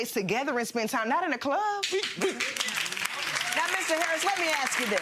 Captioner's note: audience applauding